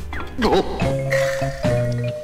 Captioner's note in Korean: 탄식